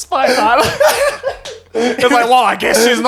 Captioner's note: laughing